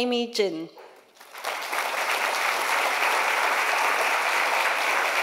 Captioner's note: audience applause